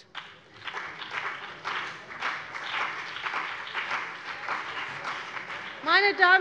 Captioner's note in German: Beifall CDU und BÜNDNIS 90/DIE GRÜNEN